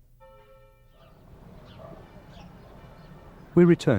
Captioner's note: bell chimes